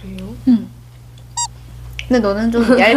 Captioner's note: upset